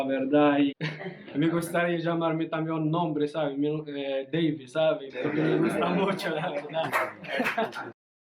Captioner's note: laughs